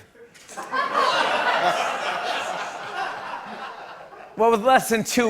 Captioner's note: laughter